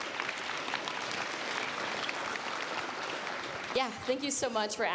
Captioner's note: applause